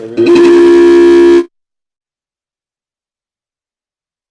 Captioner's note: video call rings loudly